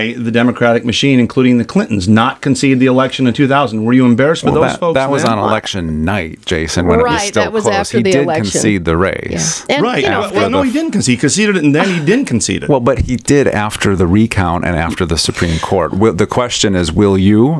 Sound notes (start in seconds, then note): 11.8 exasperated sigh